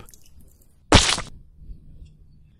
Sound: splat!

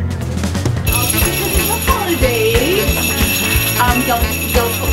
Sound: ringing

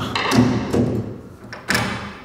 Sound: hammering

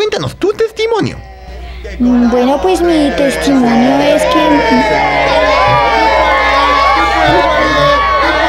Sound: noise from the fans

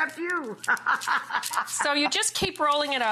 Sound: laughs

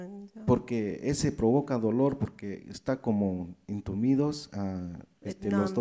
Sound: speaks in foreign language

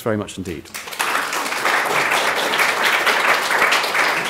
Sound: audience clapping

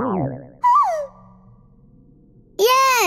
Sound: chirping

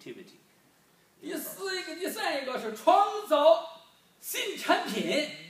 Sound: speaking foreign language

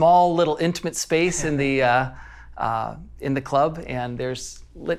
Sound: laughing

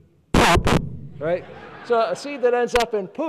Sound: laughing

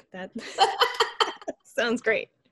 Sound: laughter

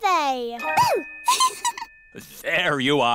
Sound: giggles

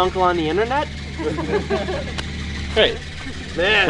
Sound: laughing

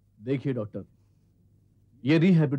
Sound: none

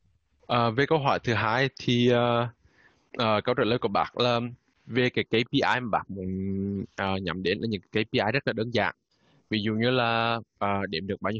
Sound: speaking Vietnamese

